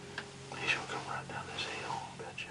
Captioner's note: whispering